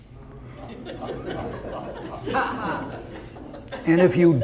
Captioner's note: audience laughter